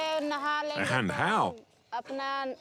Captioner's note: hindi-spoken audio